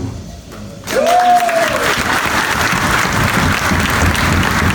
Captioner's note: audience applauds